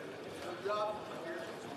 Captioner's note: speaking French